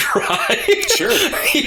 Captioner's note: laughter